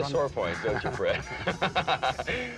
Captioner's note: laughs